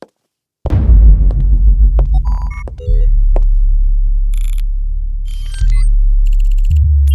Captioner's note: footsteps patter; electronics beep